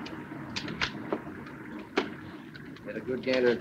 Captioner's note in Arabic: الكاميرات تلتقط الصور